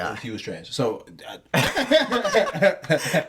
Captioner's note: laughing